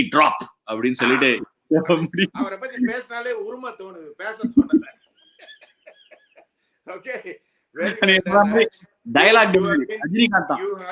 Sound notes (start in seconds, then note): 4.2 laughs